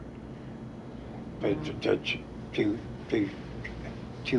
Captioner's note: stammering